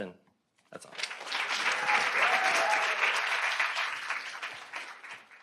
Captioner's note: audience applauding